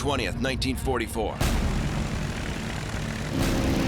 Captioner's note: propeller whirring